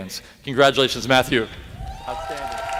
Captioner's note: applause